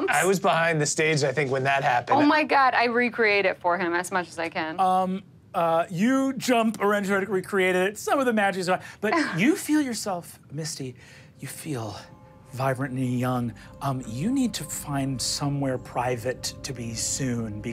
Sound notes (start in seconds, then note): none